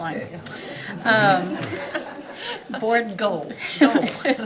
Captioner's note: laughter